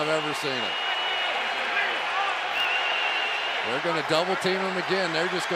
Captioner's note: cheering